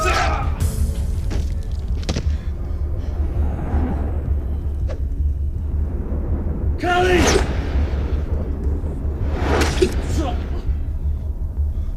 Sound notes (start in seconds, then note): 2.2 heavy breathing; 8.5 dramatic music